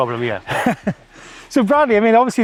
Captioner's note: giggles